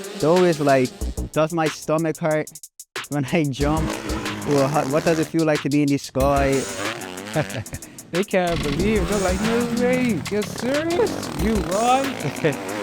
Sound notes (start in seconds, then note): 7.1 laughs